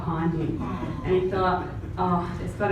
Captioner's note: crowd gasps